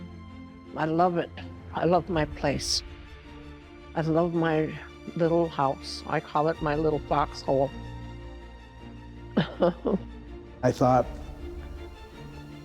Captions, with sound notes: I love it, I love my place. I love my little house. I call it my little foxhole. (chuckling) - I thought,